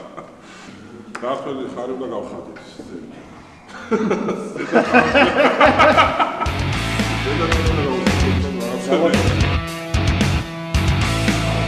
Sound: laughs

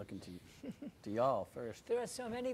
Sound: chuckling

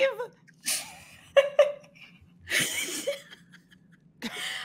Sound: all laughing

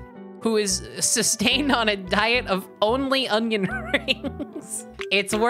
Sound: laughing

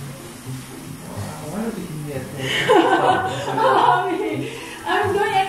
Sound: laugh

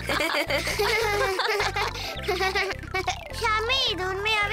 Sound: laughing

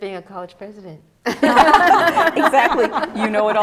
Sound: laughter

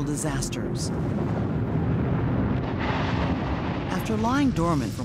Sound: roaring volcanic eruption

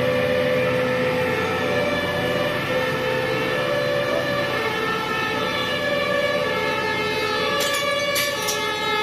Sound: sirens; breaking glass

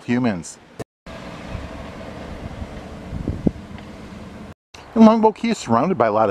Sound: car humming; wind gusting

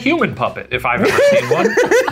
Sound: laughing

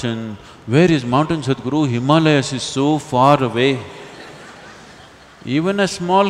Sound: laughter

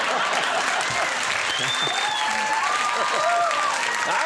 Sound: crowd laughing

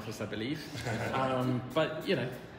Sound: all chuckling

